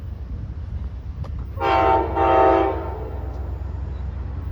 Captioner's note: Amtrak horn blaring